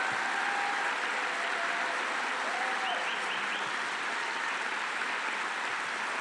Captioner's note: applause